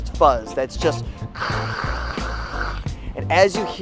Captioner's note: static sound